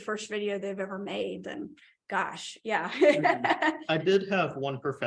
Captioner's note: laughter